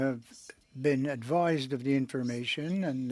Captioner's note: speaking French